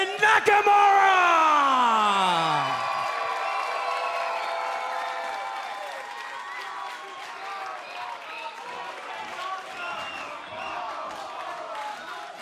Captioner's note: cheers and applause